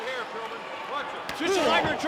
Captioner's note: blows thudding